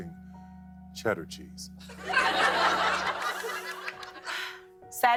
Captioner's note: laughter